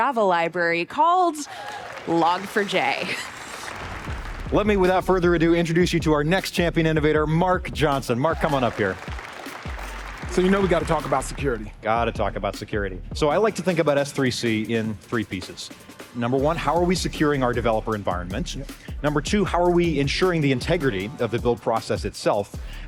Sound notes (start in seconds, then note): 8.2 applause